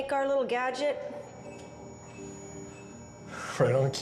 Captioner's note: beeping